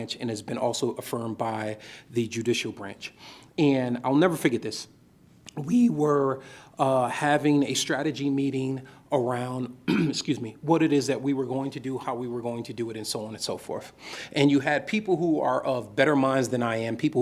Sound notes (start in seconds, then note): 9.8 coughs